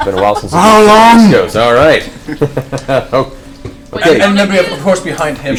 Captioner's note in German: lacht